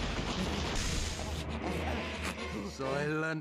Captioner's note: both panting